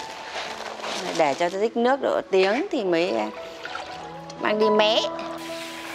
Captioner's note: grinding rice